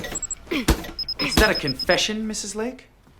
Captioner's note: grunting